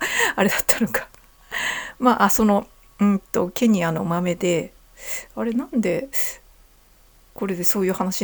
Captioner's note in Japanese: 息をのむ音